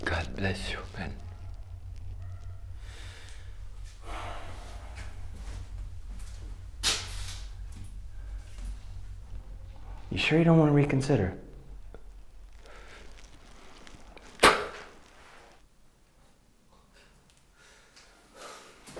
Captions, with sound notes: God bless your men. You sure you don't wanna reconsider? [Spinelli spitting]